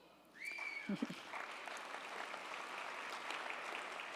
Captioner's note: audience applauding